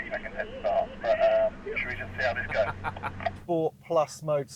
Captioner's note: laughs